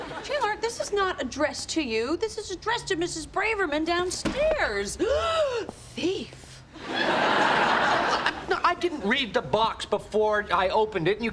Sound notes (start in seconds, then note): 0.0 audience laughing; 5.1 gasps; 6.8 audience laughing